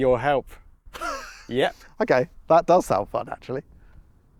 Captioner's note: laughs